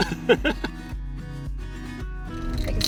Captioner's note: laughs